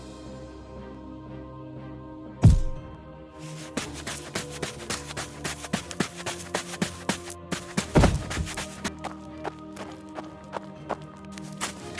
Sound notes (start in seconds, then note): 5.0 footsteps